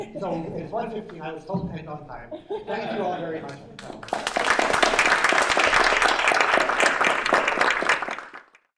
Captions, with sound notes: So it's 1:15-- I was told to end on time. [LAUGHTER] Thank you all very much for coming. [APPLAUSE]